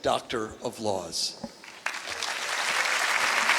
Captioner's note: applause